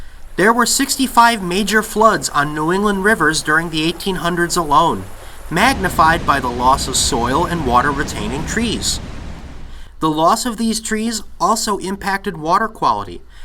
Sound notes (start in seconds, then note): 0.2 rush of water; 5.5 roar of water